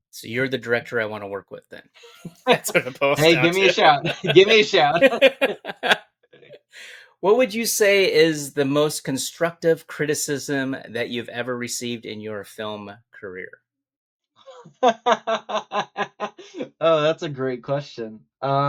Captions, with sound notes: So you're the director I wanna work with then. That's what the post sounds is. Hey, give me a shout. Give me a shout. (both laughing) What would you say is the most constructive criticism that you've ever received in your film career? (both laughing) Oh, that's a great question.